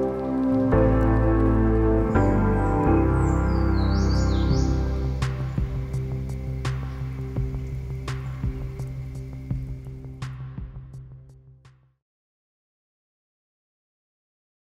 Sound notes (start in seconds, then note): 3.1 bird chirping